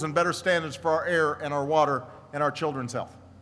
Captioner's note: none